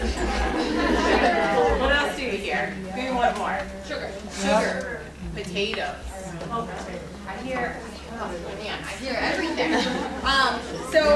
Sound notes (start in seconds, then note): 0.1 laughter